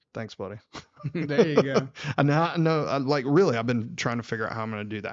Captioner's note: laughs